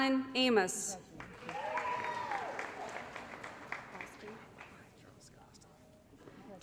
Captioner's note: applause & Cheering